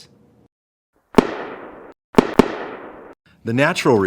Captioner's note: gunshots